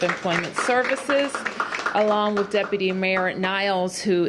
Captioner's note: applause